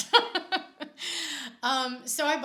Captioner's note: laughs